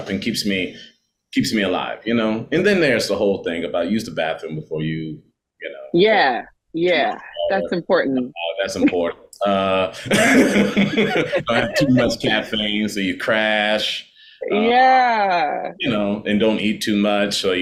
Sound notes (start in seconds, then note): 9.4 laughing